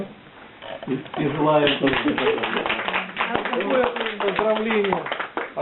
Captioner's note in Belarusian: апладысменты